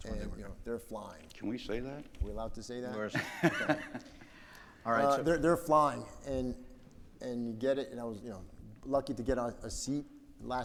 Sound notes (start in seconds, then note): 3.1 man laughs